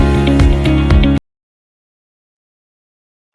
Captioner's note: music abruptly stops